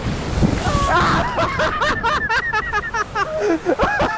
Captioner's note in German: schreit wegen unerwarteten Wasserspriter